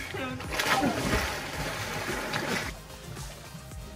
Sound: water splashing; smooth electronic music

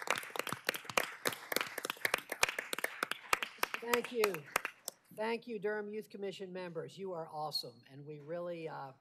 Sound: applause

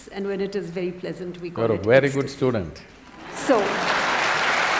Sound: applause

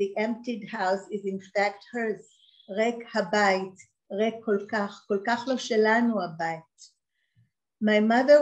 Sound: reads in the original Hebrew

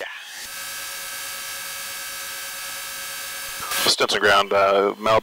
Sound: plane engine buzzes

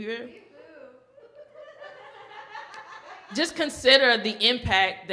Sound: laughs

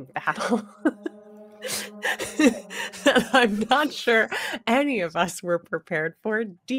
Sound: chuckles

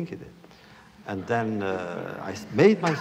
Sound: laughter

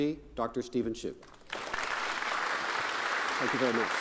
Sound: crowd applauding

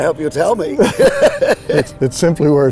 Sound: laughs

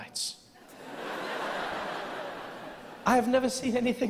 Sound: audience laughing

